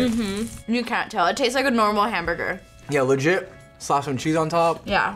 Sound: none

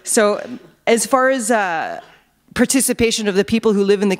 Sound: none

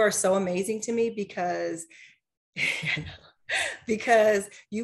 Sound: laughs

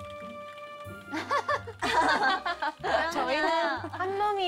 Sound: the trainees are laughing

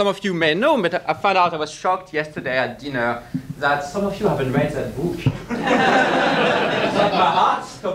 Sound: audience laughs

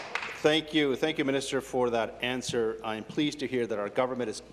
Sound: applause

